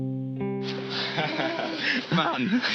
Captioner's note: laughs